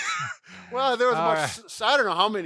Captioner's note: laughs